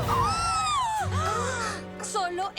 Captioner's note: gasps all around